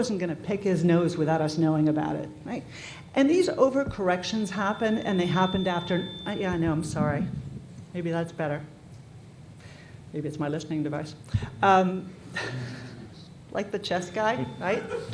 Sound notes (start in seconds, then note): 6.0 microphone squeal